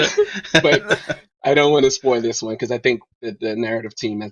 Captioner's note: laughs